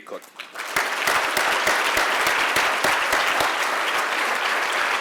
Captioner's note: applause